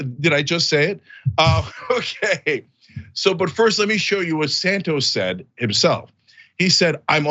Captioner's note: laugh